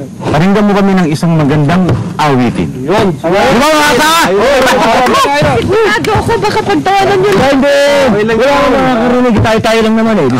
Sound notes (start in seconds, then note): 4.4 laughing